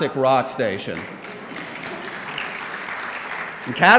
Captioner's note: audience clapping